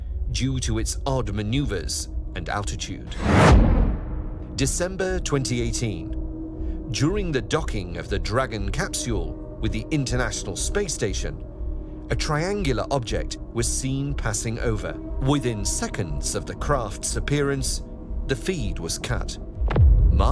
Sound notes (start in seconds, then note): 3.0 dramatic swoosh